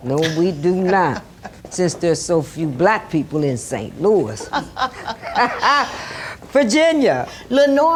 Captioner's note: Lenora laughs